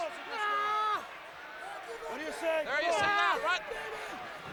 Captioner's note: Zbyszko screaming